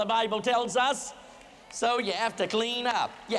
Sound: applause

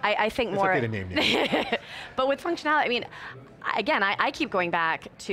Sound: laughs

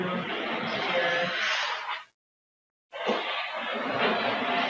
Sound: tool scratching

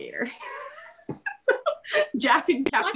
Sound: both laugh

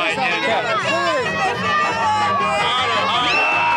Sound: cheering

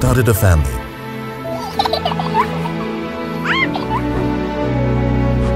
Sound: children giggle, squeal; gentle music

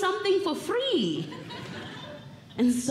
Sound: audience Laughing

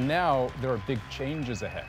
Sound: applause

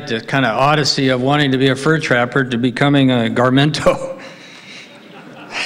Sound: laughs

